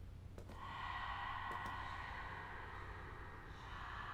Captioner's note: faint creepy whispering